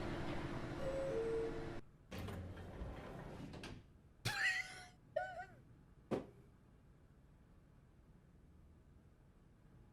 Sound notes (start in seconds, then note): 0.7 elevator beeps, opens; 3.9 laughs and hits the desk